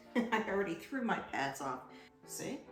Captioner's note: laughs